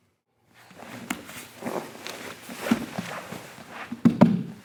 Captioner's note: soft thudding